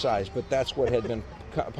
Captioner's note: laughs